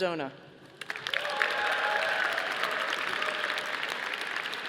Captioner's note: audience applauding